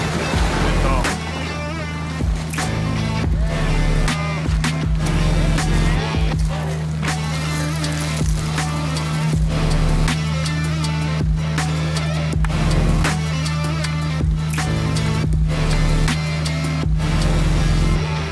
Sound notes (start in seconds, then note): 0.2 upbeat music; 4.2 truck engine roaring; 6.4 upbeat music